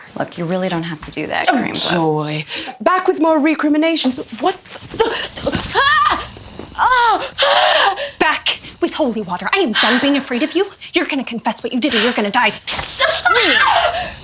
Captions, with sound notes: Look. You really don't have to do that crea- Oh joy! Back with more recriminations? What the - [Screaming] Back with Holy Water. I am done being afraid of you. You're going to confess what you did or you're going to die screaming.